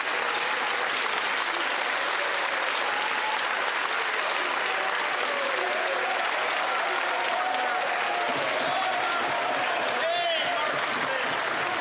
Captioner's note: some Applause